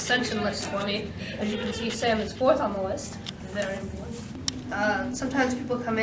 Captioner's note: laughs